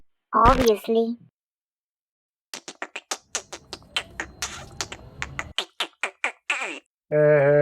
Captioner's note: alien sounds